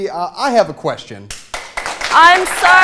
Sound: applause

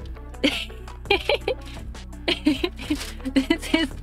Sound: laughter

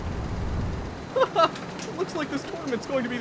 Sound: KRILLIN chuckles

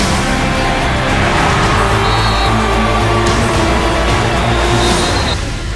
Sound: crowd cheering

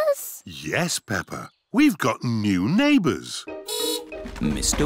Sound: horn beeps

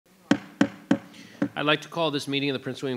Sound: gavel bangs

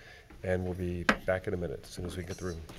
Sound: gavel bangs

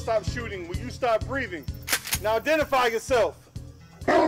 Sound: gun cocks

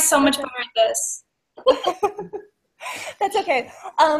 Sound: laughs

